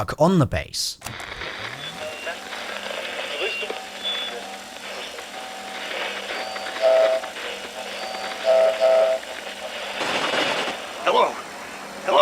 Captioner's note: radio static